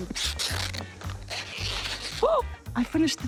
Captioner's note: tape squeaks; gasps